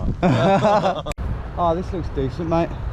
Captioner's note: laugh